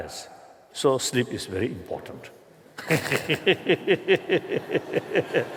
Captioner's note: laughter